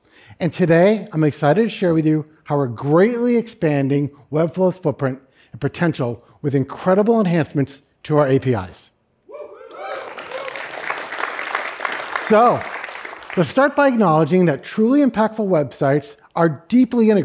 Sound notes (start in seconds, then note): 12.2 cheering; 12.8 applause